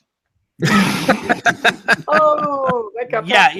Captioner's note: everyone laughs